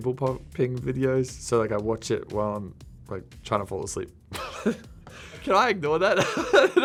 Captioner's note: laughing